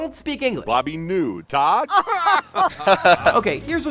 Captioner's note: laughter